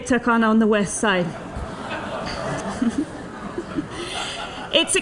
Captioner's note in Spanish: risas